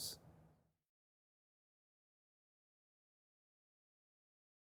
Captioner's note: silence